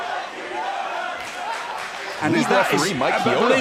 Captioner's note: crowd cheering